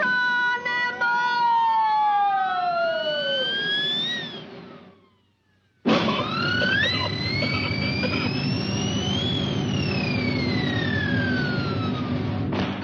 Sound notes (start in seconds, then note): 3.0 air squealing; 5.8 manager coughing